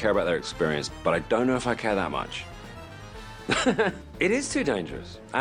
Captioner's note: laughs